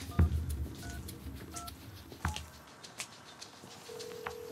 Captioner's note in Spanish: sonido al marcar números